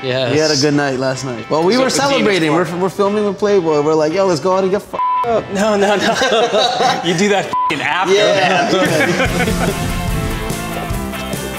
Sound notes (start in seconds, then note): 5.4 laughs; 8.9 upbeat music